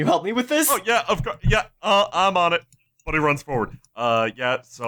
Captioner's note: stuttering